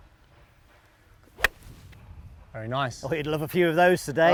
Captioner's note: golf club hitting ball